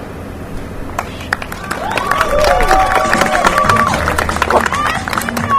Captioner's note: applause and cheers